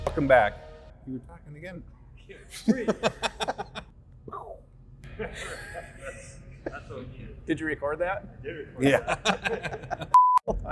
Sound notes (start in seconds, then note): 2.5 both laugh; 5.1 laughs; 8.8 laughs